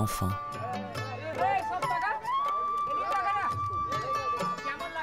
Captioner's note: Indian spoken audio